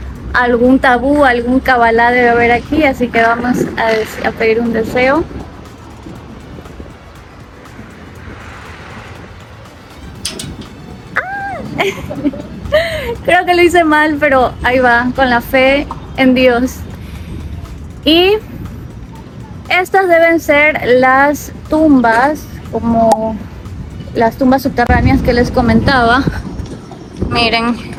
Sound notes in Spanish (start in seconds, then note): 8.2 risas